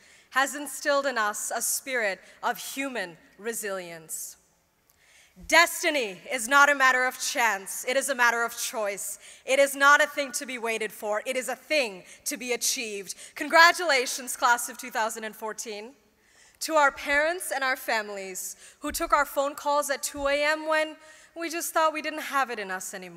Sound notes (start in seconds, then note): none